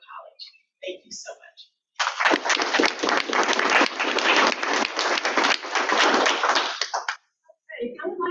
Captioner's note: audience clapping